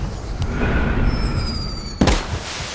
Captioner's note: strong wind; explosion